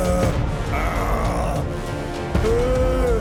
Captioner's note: growling